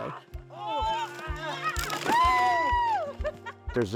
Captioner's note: cheering